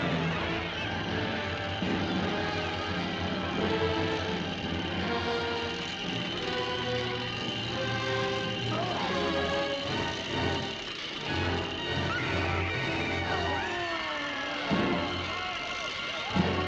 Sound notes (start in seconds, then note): 0.3 crowd clamoring; 12.6 shrieking